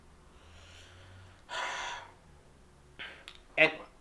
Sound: sighs

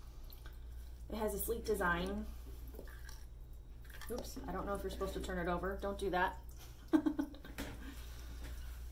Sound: giggles

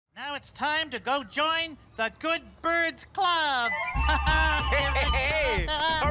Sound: laughs

